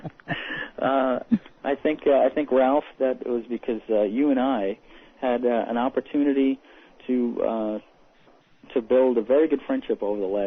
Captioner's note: laughter